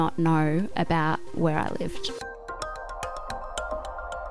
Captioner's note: voiceover